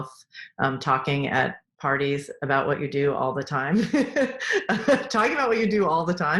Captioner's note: laughing